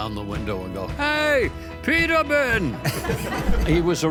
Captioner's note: all laugh